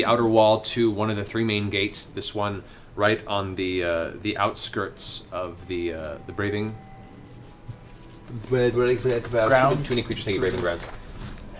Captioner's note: stutters